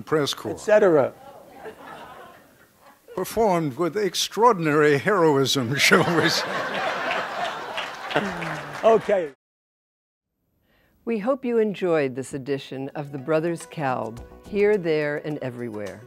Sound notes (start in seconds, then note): 5.8 background laughter; 7.0 applause